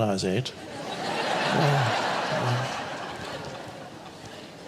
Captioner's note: audience laughs